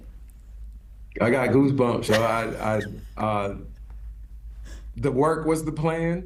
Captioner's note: chuckles